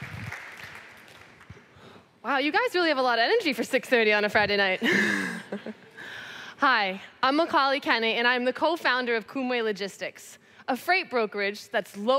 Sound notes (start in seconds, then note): 4.9 laughs